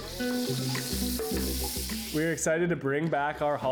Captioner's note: pan sizzling